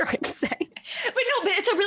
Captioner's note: laughing